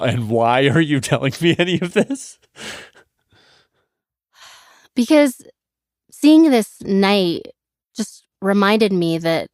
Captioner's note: laughs